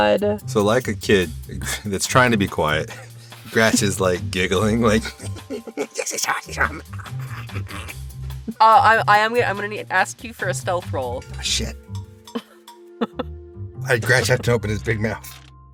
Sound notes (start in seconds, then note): 6.6 in a loud whisper